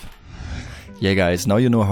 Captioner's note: whoosh